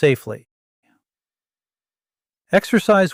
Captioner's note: pause